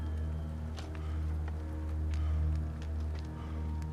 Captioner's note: person panting